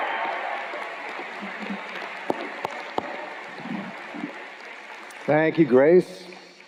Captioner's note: cheers and Applause